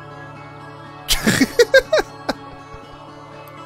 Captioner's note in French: Rire